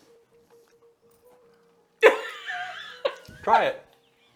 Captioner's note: laughing